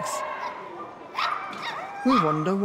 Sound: dogs barking

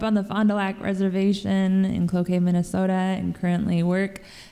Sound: none

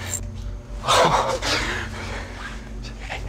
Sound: laughs

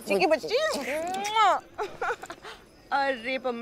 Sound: kissing; giggling

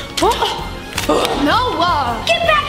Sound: both grunt

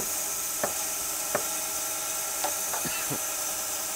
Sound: plank banging

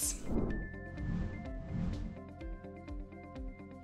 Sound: air whooshing

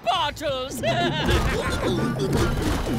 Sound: laughing

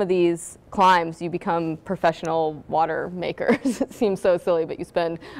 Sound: laughs

